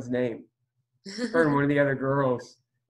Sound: laughs

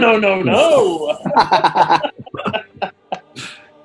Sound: laughter

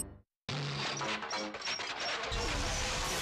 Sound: whirring

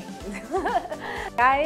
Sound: laughing

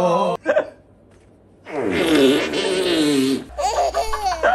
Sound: fart noise

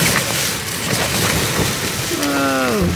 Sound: wind gusts

